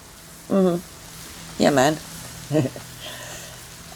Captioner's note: chuckles